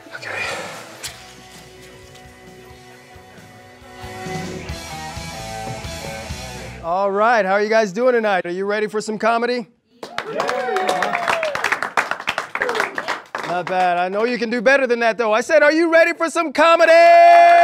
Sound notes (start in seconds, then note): 4.2 upbeat rock music; 10.0 audience cheers; 17.2 audience cheers